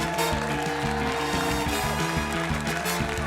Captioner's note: cheering, applause